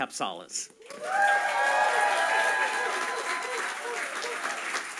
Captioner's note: audience applauding